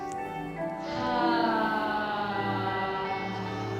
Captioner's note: all sigh